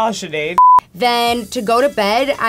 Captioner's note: beep